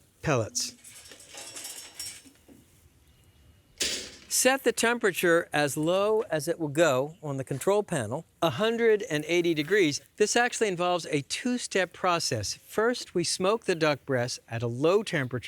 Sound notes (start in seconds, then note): 2.6 clank